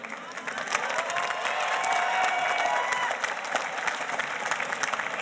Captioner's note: audience applauding